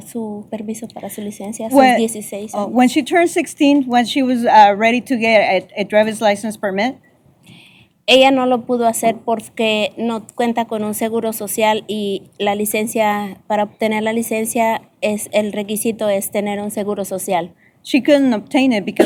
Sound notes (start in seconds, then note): 8.1 speaking spanish